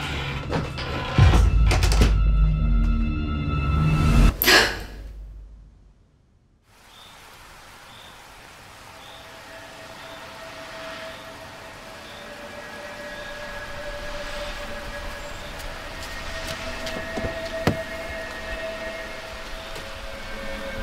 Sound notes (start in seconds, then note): 0.0 door creaks; 2.9 eerie music; 4.4 gasps; 7.3 crickets chirping; 11.3 eerie music